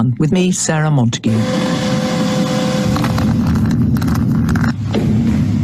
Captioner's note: screen swooshing